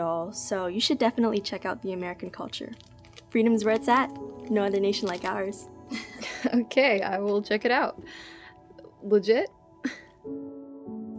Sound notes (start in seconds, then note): 5.9 Anya laughs